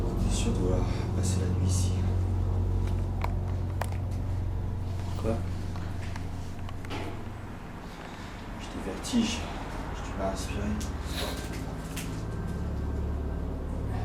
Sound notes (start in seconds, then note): 0.4 speaks French; 5.1 speaks French